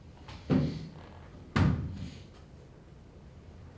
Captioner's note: footsteps